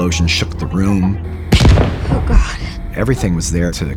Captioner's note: gunshot